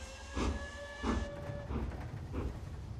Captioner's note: train whistle sounds